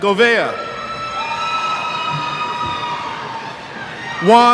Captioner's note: cheers